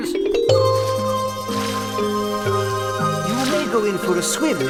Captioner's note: water splashing